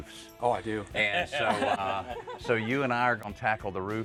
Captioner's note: laughs